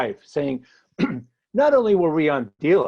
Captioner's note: clears throat